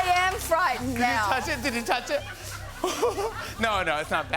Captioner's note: laughs